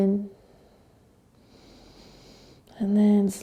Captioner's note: inhaling